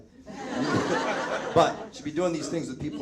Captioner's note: audience laughs